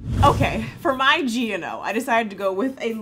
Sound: air whooshing

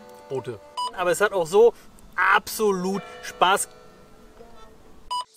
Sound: gong

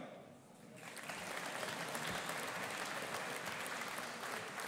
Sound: audience applauding

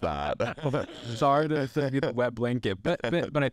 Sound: laughs

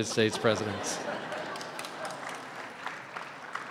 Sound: laughter

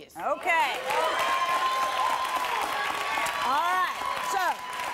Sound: cheers

